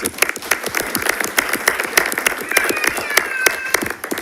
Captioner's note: everyone applauding